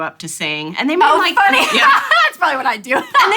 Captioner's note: laughing